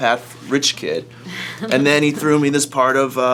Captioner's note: laughs